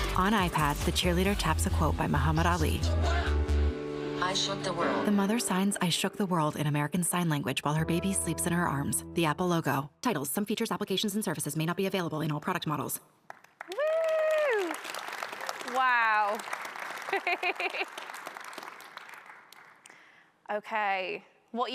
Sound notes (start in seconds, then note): 13.2 audience applauding; 17.0 chuckles